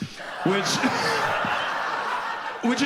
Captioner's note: audience applauds